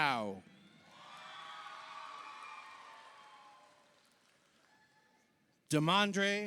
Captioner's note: audience cheers; audience applauds